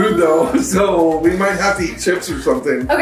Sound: chuckles

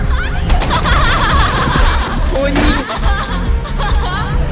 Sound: gasps

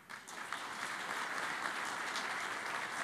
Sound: applause

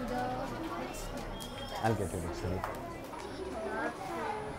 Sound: students chattering

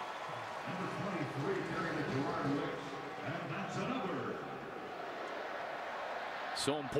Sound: pa announcement

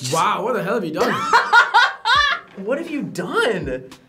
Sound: laughs

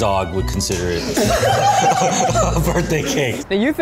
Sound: laughs

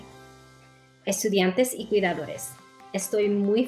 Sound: spanish

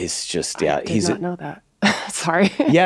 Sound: laughs

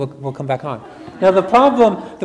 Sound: audience laughs

